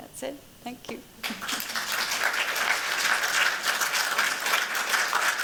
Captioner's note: applause